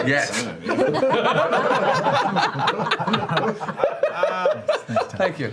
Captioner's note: laughter